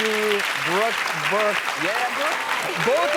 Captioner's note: audience clapping